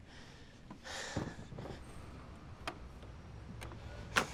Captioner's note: Kate sighs